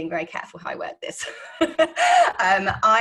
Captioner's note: laughing